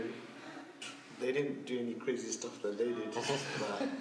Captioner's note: laughs